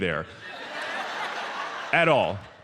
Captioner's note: audience laughs